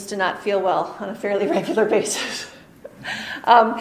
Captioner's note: chuckles